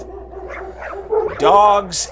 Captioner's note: dogs barking